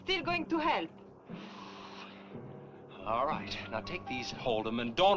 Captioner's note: sighing